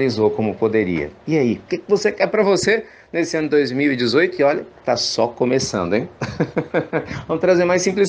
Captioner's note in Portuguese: risos